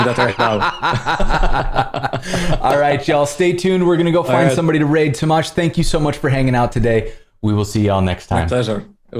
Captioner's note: laughter